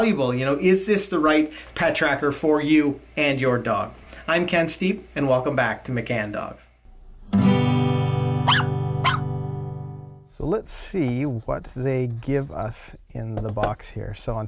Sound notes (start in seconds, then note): 6.7 dog barking; 6.9 guitar strumming